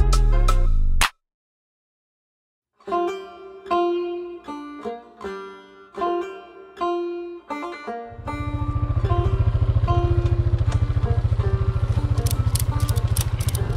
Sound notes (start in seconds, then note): 3.1 slow country music; 8.1 ATV engine rumbles